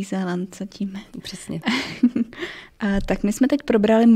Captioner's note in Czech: smích